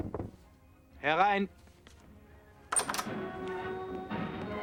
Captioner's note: speaking german